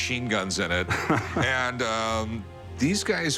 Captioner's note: laughs